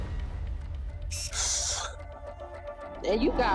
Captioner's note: sighs